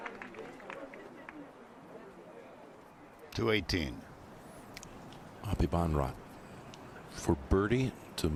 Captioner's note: applause